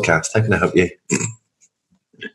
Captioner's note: laughs